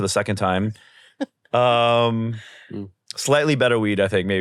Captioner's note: chuckles